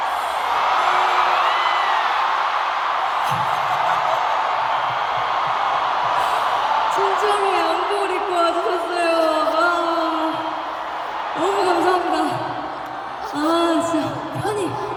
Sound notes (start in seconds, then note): 2.0 audiences going crazy lol